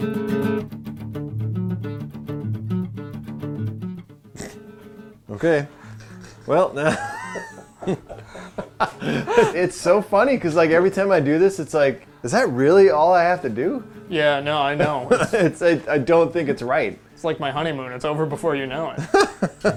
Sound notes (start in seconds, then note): 4.3 snorts; 5.4 laughs